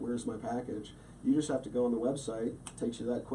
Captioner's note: snaps fingers